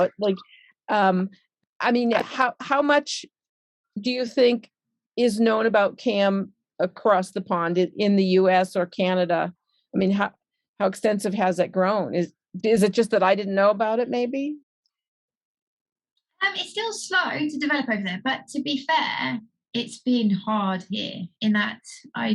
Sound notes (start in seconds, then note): none